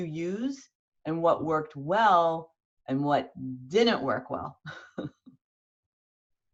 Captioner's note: chuckles lightly